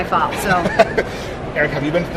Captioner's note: laughs